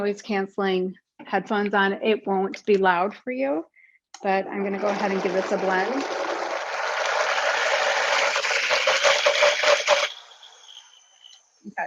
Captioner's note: whirring